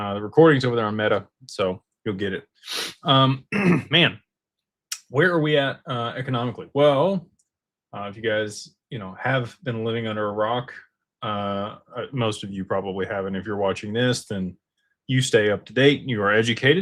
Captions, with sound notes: the recording's over there on meta. So, you'll get it. >> [snorts] >> >> [clears throat] >> man. Where are we at economically? Well, if you guys, you know, have been living under a rock, most of you probably haven't and if you're watching this, then you stay up to date and you are educated.